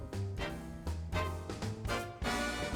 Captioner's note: none